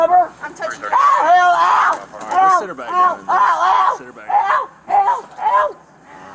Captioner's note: screaming